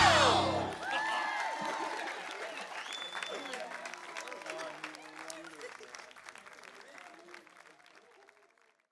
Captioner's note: applause